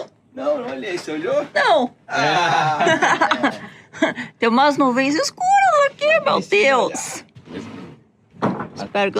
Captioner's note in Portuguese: risadas